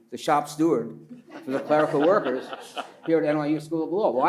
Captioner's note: listeners laugh